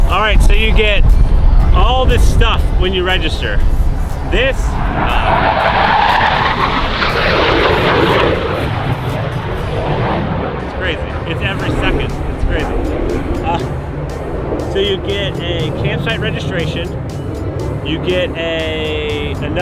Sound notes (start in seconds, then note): 5.1 plane roars